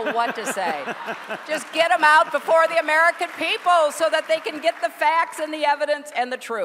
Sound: laughter

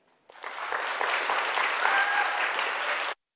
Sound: audience clapping

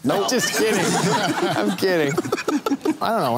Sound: laughter

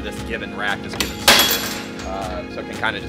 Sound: metal clanging on floor

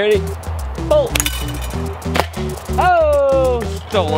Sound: slingshot strikes

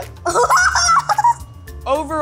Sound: laughing

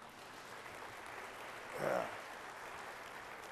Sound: applause

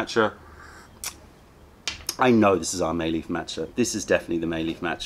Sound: sips tea

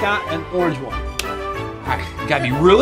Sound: hands clap

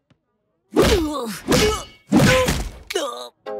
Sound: grunting

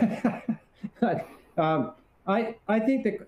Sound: laughs

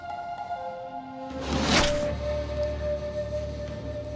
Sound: arrow whooshing

